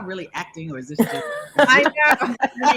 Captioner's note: laughing